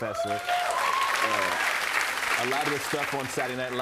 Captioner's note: cheers and applause